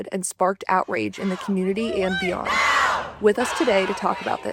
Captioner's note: crowd chanting